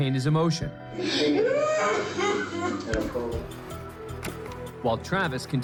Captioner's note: sobs